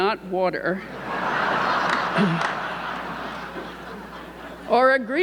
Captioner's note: audience laughing